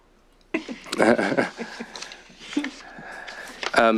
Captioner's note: chuckling